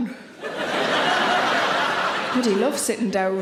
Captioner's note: audience laughing